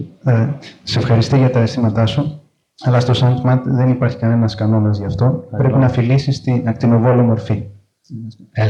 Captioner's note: translating in foreign language